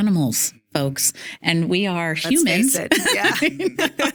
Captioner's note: laughing